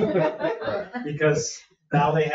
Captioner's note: all laughing